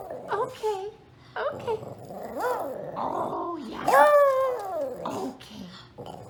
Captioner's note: roar; happy growl